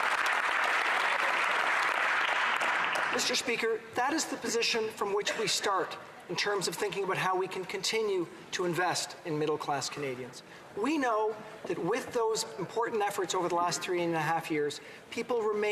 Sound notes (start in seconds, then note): 2.9 applause